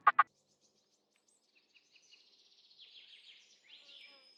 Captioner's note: birds chirping